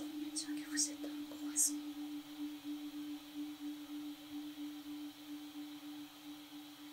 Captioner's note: whispers